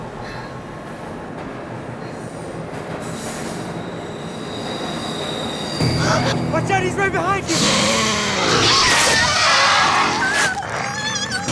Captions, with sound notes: [ GASPS ] WATCH OUT! HE'S RIGHT BEHIND YOU! [ GROWLS ] [ SCREAMING ]